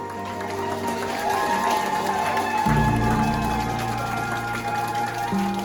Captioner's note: staff clapping and cheering